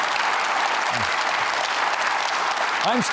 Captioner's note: applauding